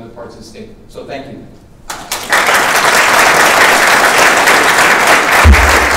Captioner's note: audience applauding